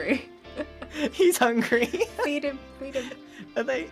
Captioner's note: both giggling